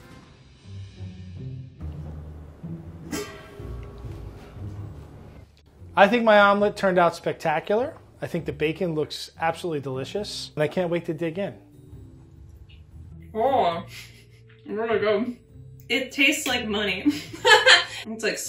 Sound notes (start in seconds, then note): 0.1 suspenseful music; 3.1 lids ringing; 17.1 laughs